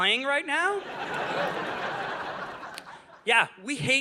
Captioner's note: audience laughing